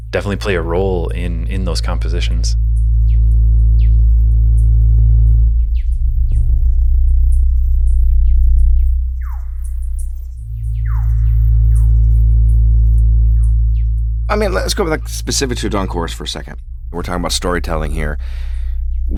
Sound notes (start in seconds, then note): 3.0 tranquil music; 5.7 birds singing